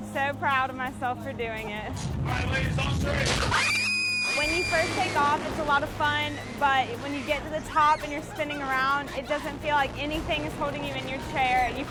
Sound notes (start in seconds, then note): 3.4 screams